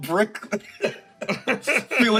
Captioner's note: laughs